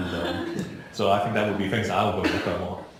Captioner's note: laughing